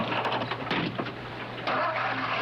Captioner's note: engine starting